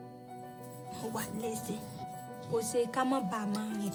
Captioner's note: non-english speech